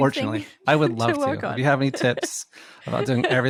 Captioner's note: laughs